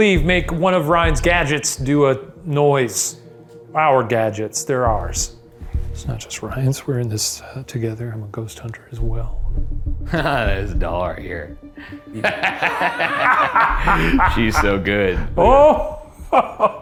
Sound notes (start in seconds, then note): 11.8 laughing